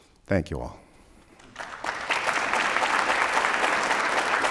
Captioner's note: applause